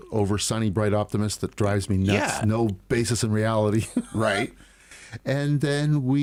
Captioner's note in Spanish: Risas